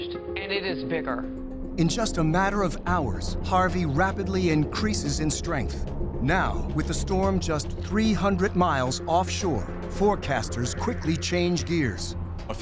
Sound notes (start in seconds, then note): none